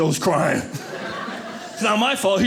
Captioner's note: audience laughing